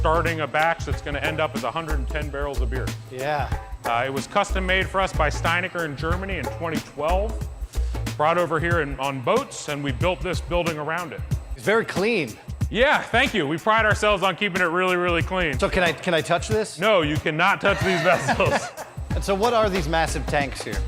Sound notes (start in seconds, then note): 17.6 laughing